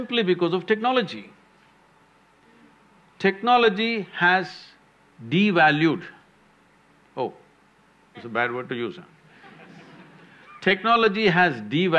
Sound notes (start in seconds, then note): 9.3 laughter